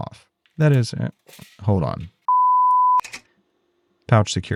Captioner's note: beeps